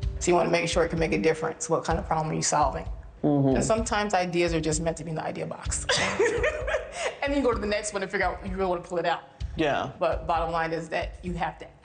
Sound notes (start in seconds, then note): 5.9 laughs